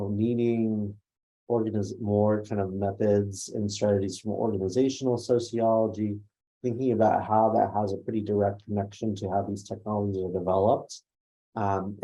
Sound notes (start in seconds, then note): none